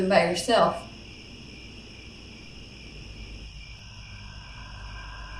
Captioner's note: crickets; crickets, haunting music